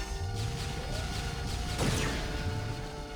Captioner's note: explosion